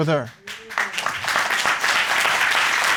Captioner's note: applause